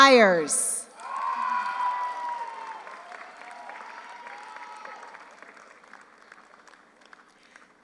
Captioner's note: audience cheers; audience applauds